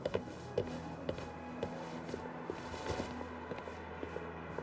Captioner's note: heels clinking